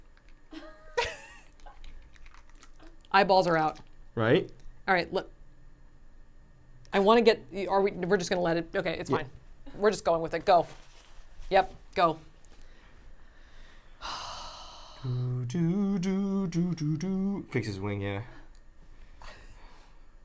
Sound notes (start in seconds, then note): 14.9 hums